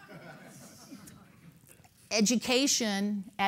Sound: laughter

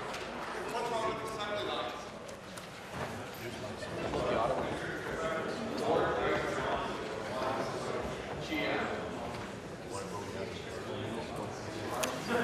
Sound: applause

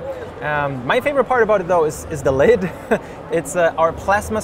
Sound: chuckles

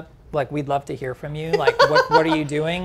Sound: laughing

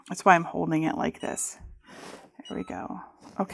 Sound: machine beeping

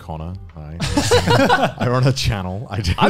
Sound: laughing

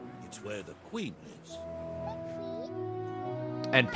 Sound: none

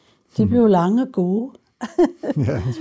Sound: laughs

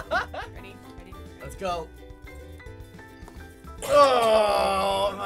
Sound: laughing; coughing

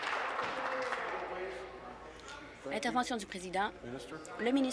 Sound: applause

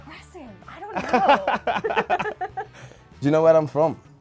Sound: both laugh

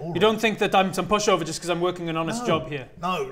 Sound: none

